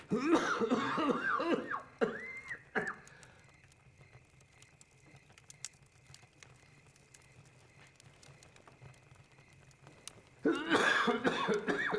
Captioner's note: coughing